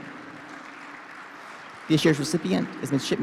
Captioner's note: participants clap